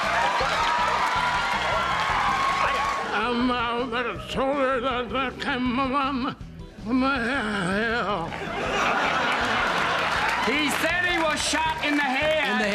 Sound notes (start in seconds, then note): 0.2 upbeat music; 8.3 audience laughing